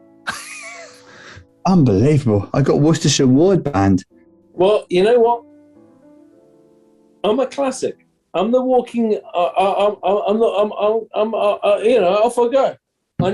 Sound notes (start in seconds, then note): 0.7 sniggering; 9.3 stammers